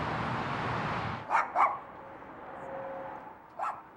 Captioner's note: dog barking